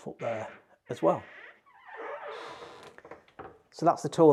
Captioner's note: door squeaking